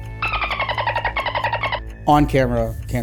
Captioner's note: dolphin chirping